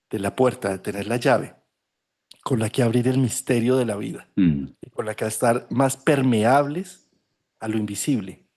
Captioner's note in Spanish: carraspeo